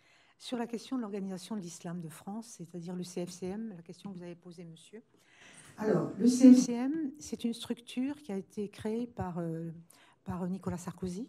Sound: speaking french

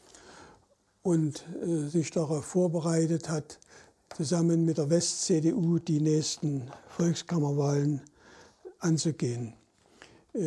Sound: German

